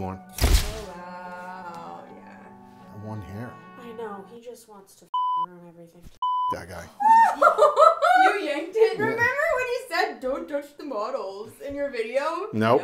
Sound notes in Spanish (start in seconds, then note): 7.0 se ríe